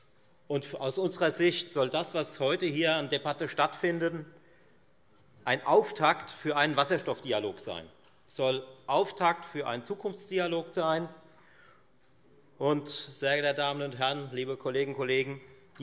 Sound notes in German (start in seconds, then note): none